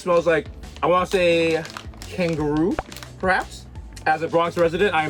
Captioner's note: pops